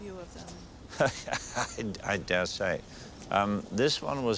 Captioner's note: Pail laughs